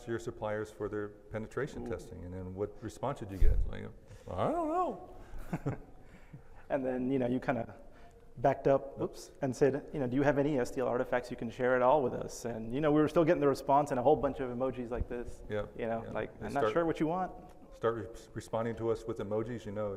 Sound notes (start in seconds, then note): 5.2 laugh